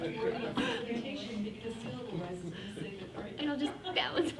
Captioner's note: faintly speaking